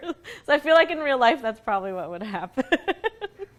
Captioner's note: laughs